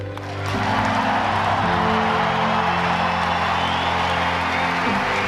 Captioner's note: applause